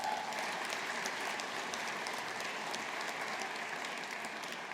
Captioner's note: audience applauding